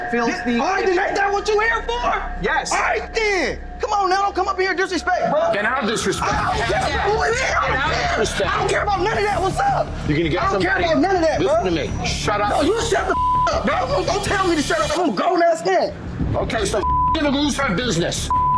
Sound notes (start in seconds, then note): 13.0 beep